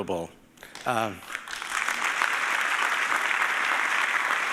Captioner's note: audience applauding